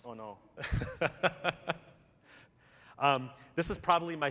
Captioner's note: laughter